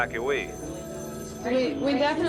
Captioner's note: phones ringing